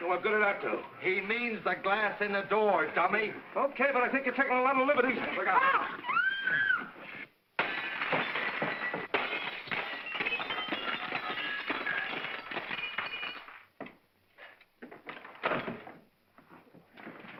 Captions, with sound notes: So what good did that do? - He means the glass in the door, dummy. - Okay, but I think you're taking a lot of liberties. - Look out. (Emily screams) (glass breaking) (heavy door opens)